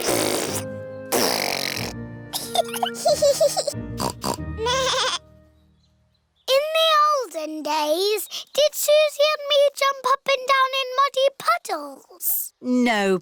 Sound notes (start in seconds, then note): 0.0 sputtering; 2.3 both giggling; 4.0 snorts; 4.3 bleats